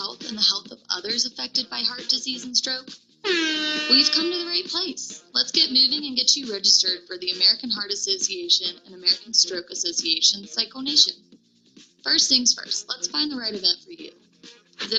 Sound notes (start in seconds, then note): 3.2 horn blowing